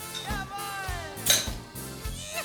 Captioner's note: bottle cap pops